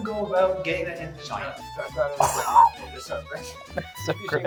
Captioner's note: laughing